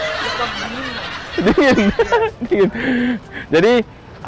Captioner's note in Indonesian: ketawa